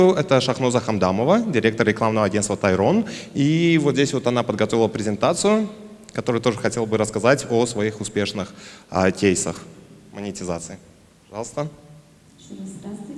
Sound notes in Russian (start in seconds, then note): none